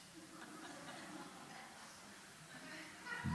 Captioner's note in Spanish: Suave risa de la audiencia